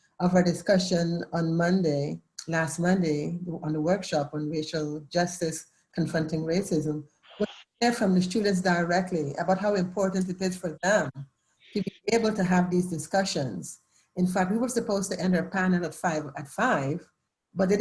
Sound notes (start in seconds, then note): 7.3 electronic interference